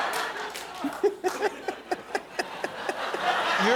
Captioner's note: jimmy laughs hysterically